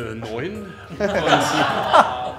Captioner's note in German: Lachen